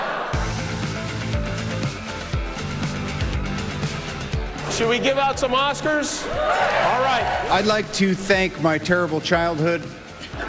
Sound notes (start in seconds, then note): 0.2 upbeat music; 6.2 cheering